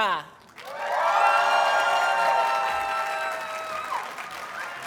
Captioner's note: audience cheers and applauds